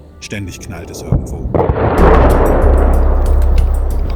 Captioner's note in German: Detonation